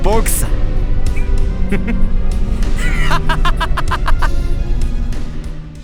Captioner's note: evil laugh